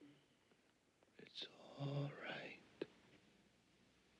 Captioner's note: whispering